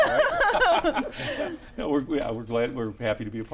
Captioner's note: all laugh